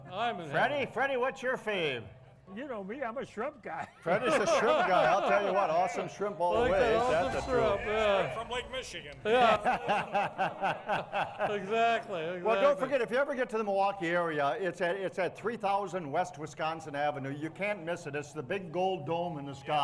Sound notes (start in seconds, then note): 9.2 laughing